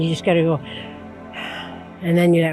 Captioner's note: breathes deeply